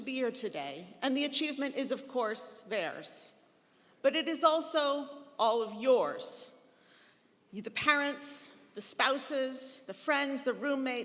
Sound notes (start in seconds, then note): none